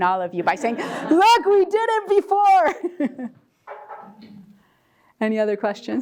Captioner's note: laugh